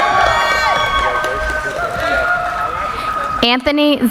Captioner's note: cheering